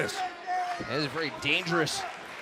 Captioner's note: crowd cheering